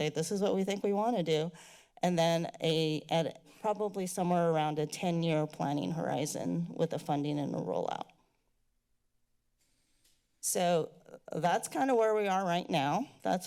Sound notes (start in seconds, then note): 8.2 silence; 9.8 mouse clicking